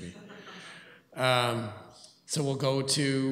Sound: laughter

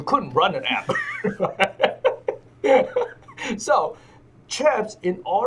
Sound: laughs

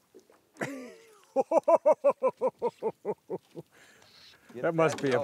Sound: jovial laughter

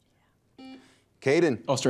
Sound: buzzer beeps

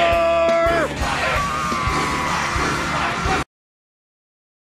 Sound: everyone shouting "CRUCIFY!"; Skinner screams; everyone shouting "CRUCIFY!"

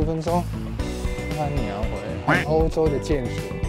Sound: Taiwanese

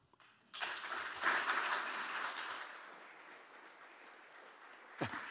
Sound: attendees clapping

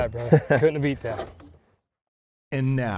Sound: chuckles

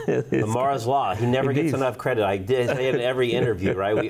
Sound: laughs

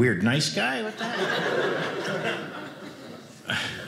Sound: audience laughing

